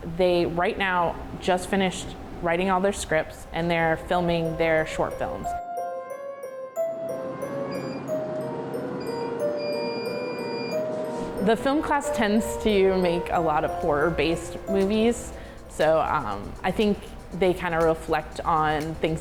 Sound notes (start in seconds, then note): 5.5 eerie music; 7.9 buttons beeping